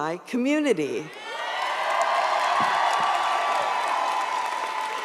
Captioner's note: audience cheers